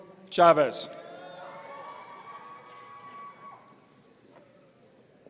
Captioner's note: audience cheering